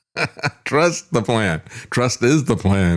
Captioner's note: laughs